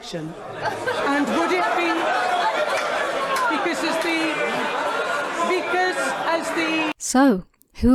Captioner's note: laughing